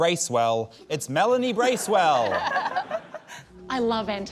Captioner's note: laughter